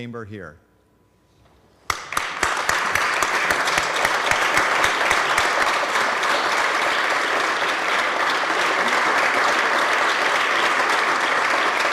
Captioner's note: applause